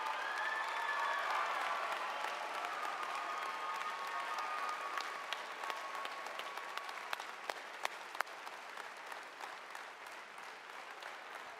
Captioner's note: applause